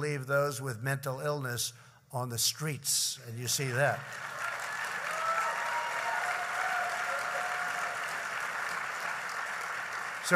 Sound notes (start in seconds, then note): 3.6 applause